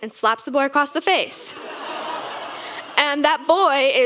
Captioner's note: audience laughing